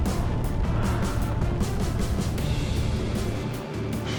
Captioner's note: burning